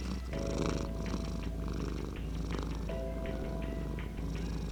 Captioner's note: purring